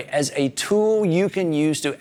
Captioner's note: none